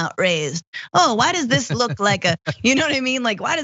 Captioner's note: laugh